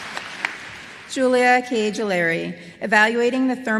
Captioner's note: applause